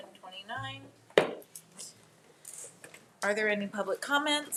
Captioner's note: gavel thudding